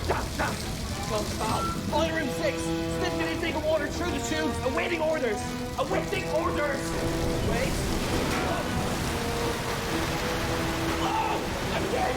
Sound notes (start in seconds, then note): 8.8 screams